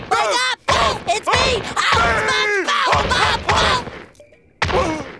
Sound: screaming

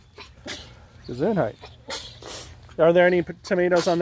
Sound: sneezes multiple times

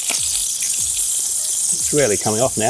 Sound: water spraying

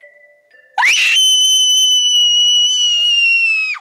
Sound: screams

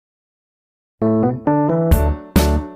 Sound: silence

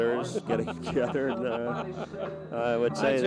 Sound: reporter laughs

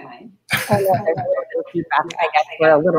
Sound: audio echoing

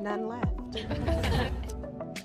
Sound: laughter

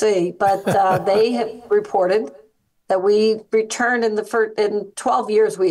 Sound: laugh

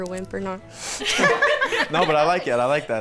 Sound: all laugh

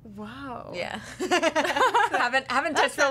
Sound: laughing

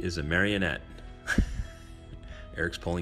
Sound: laughing

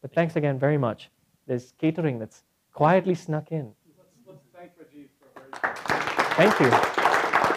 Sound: applause

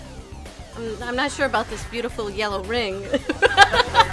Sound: laughs

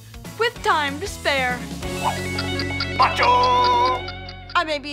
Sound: ticking

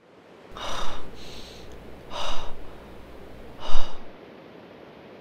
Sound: deep breath

